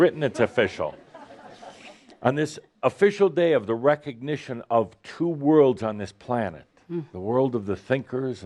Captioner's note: laughter